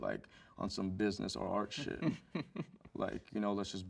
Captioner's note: host chuckles